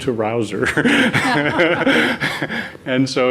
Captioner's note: laugh